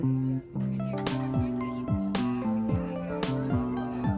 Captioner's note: people chattering